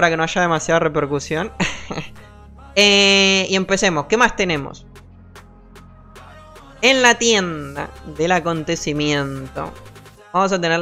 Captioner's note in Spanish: risas